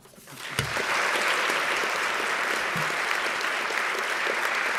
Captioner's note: audience applauding